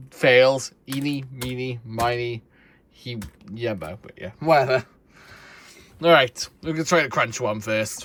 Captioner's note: stammering